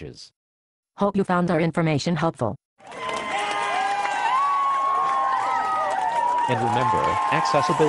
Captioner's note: cheers